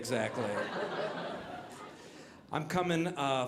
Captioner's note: audience laughing